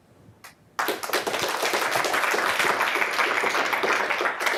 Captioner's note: audience applauding